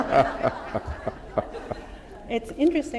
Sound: laughter

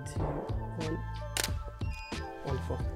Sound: camera shutter clicks

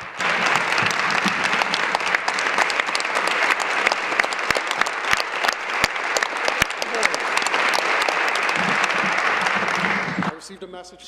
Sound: applause

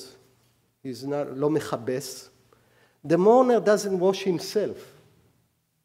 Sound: speaking hebrew

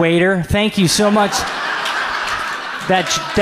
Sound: audience laughs

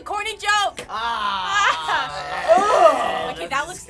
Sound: laughing

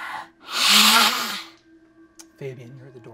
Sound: hisses

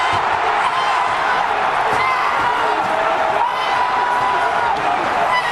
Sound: crowd roars

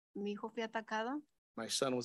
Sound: speaks in Spanish

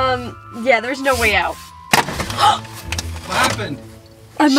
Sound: gasps

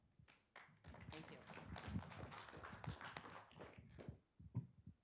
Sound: group clapping

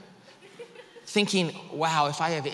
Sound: woman laughs

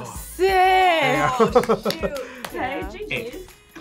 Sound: laughs

